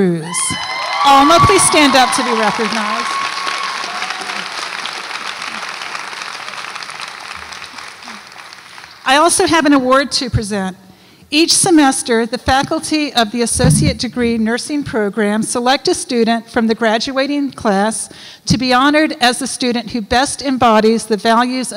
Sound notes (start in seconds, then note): 0.3 audience applauds and cheers; 4.7 audience applauds